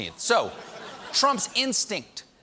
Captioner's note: laughter